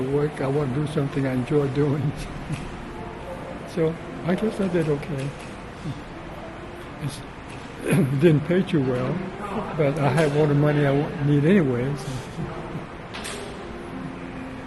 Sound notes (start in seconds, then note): 2.6 clears throat